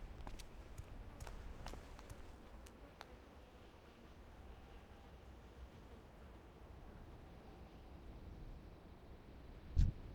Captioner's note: footsteps